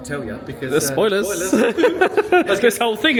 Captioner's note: laughs